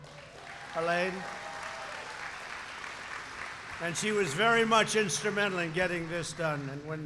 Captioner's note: applause